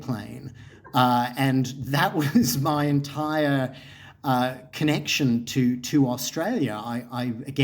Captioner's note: chuckles